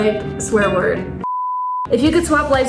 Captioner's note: beep